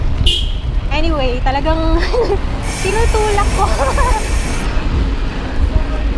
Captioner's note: laughs